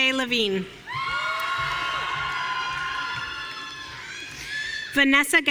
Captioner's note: audience cheering